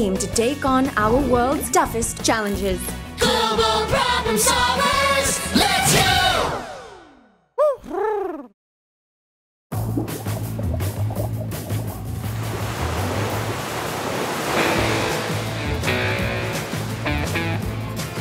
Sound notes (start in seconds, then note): 7.4 Huti hoots; 9.8 light rock music; 9.8 waves crash